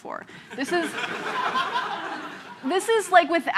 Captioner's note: laughter